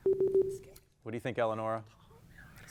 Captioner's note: contestants whispering